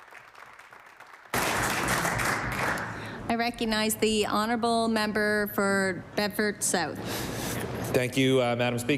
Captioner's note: applause